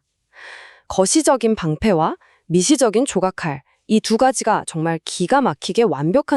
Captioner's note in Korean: 헉 소리